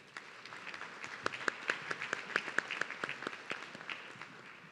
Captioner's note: audience clapping